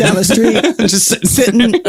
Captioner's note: laughs